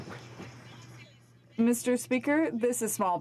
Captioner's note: some Applause